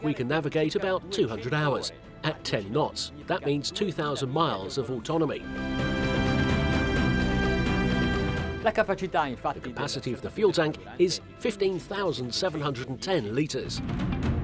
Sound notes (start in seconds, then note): 5.4 dramatic orchestral music; 8.7 speaking foreign language